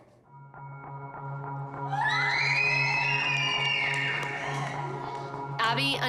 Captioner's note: screaming